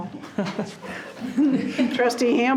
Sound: people chuckling

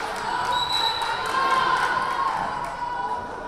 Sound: whistle blaring; crowd chattering

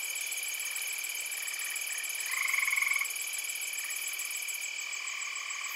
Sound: sounds of insects, tree frog

